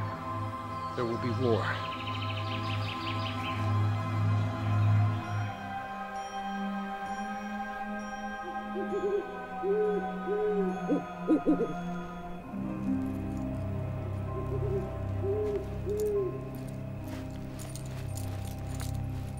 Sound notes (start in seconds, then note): 6.9 gentle music; 10.4 owl hooting